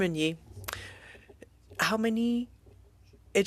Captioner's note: speaking french